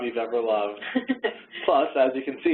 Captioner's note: laughing